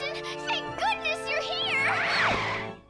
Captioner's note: tires skidding